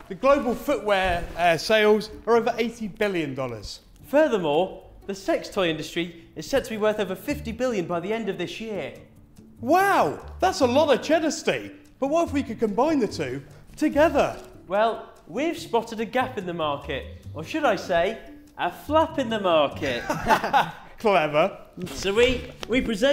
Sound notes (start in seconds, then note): 19.8 laughing